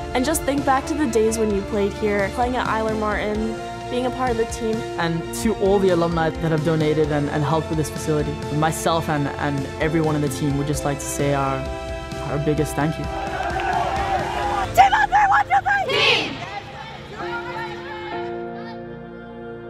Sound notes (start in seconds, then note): 12.9 soccer players cheering; 15.8 soccer players shouting; 19.5 uplifting music